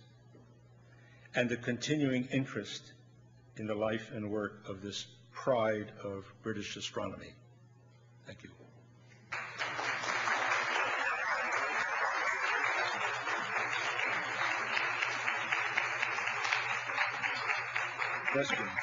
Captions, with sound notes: and the continuing interest in the life and work of this pride of British astronomy. Thank you. (audience clapping)